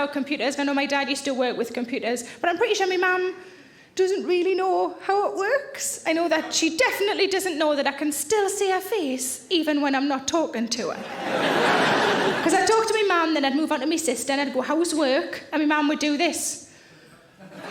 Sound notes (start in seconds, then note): 11.1 audience laughing